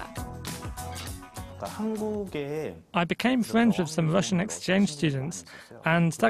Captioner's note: Korean